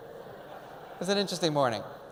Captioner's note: audience laughs